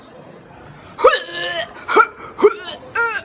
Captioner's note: vomit noises